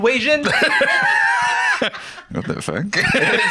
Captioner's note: laugh